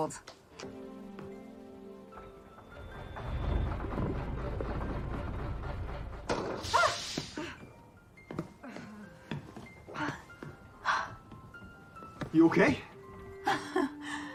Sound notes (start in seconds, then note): 6.1 Reilly gasping; 13.4 laughing